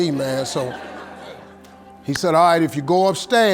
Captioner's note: audience laughing